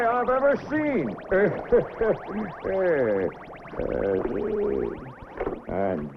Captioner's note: laughing